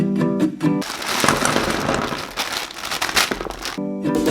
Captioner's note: ducks Clattering